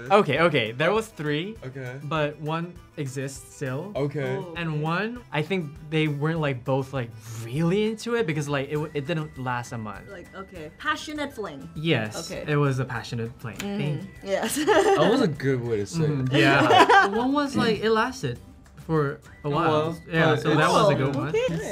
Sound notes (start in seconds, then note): 16.3 Gia laughing